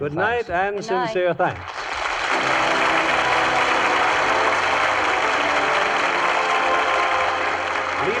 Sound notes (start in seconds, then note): 0.9 audience applauds